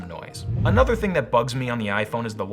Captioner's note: whooshing